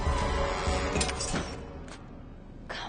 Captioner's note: clanking